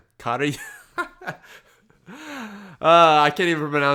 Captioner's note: laughs